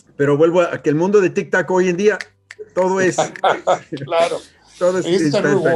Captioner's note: finger snap